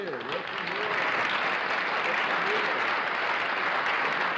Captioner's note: applause